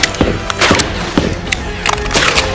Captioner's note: selector switch clicks